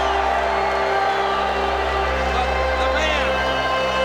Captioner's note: crowd boos